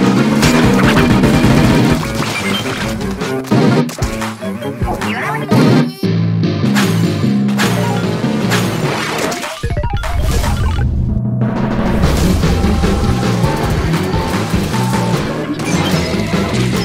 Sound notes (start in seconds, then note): 4.4 Gay octoling sounds